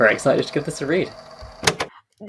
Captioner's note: tape recorder clicks off